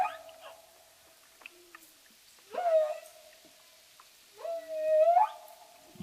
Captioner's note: whale singing